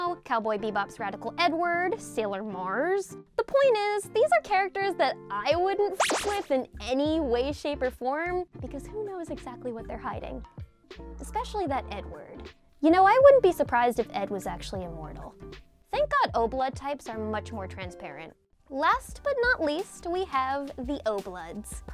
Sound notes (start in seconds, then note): 6.0 beep